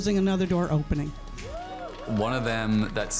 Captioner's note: crowd cheers